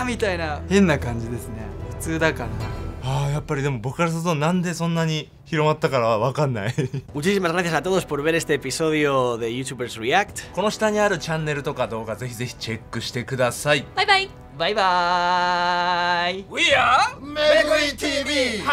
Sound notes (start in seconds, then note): 10.2 speaking Japanese